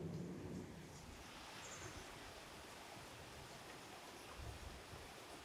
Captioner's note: wind blowing in trees